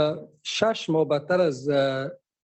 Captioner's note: speaking dari